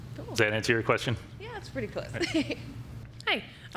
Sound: laughs

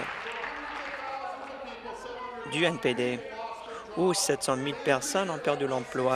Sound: applause

